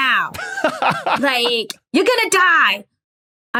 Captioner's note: laughs